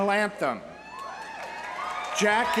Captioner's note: audience cheering; audience applauding